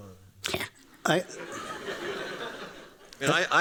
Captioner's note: laughter